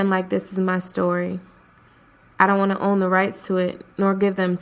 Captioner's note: voiceover